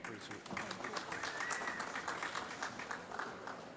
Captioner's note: applause